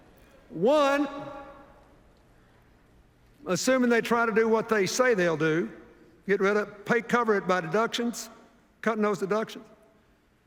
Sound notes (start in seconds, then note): none